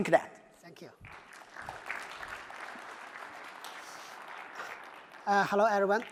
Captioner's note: applause